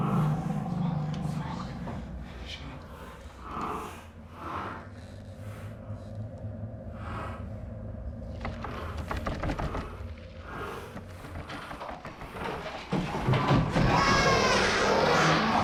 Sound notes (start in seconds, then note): 4.0 creature breathing softly; 8.4 door knob jiggling; 11.0 shaking door knob, wildly; 13.0 footsteps, running away, Creature scurrying